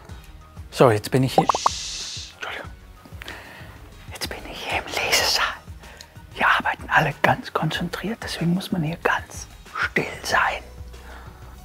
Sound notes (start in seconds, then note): 1.4 shhh